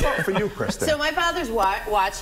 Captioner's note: laughter